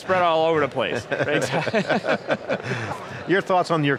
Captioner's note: laughing